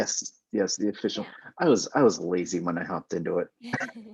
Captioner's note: both laughing